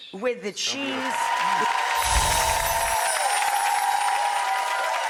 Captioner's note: people cheering